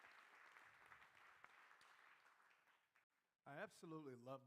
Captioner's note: crowd applauding